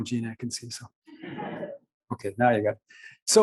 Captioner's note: laughs